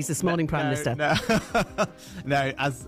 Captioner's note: Rishi Sunak Laughs